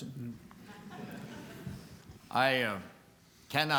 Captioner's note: chuckling